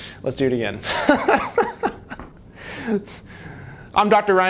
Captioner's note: laughing